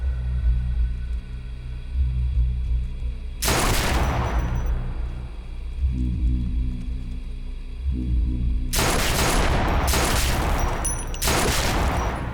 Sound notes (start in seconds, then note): 0.1 tense music; 3.4 gunshot